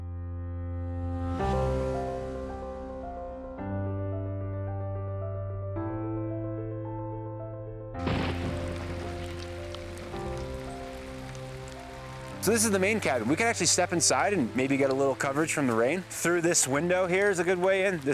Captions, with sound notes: (lighthearted music) (rain falling) - So this is the main cabin. We could actually step inside, and maybe get a little coverage from the rain. Through this window here is a good way in.